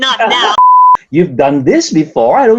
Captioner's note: beep